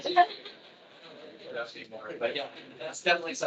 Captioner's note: attendees laughing